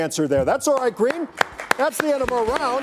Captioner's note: crowd clapping